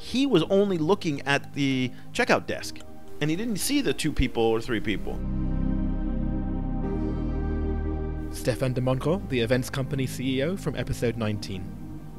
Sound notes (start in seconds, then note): 6.1 voiceover